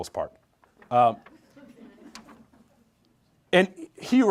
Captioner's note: group laughs